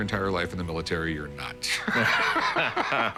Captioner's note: laughter